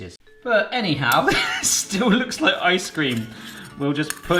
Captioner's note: laughs